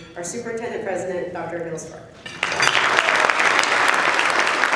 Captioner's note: applause